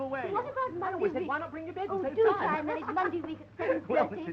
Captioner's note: chattering